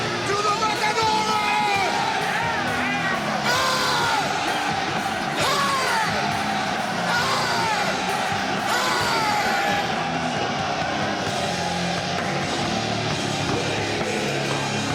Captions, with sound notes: - To the Matadores! (upbeat music) (people cheering)